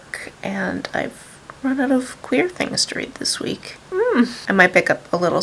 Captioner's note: confused sound